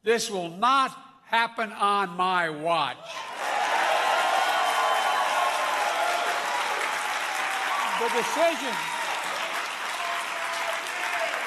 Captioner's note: applause